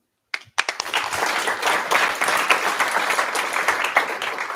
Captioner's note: applause